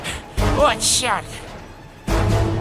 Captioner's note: panting